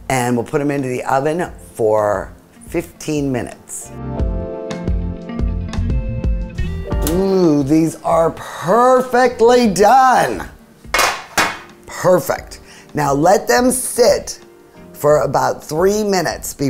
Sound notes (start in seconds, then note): 4.2 gentle music; 11.2 tray clanks